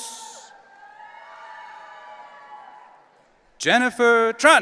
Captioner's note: audience cheering